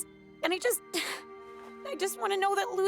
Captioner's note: exhales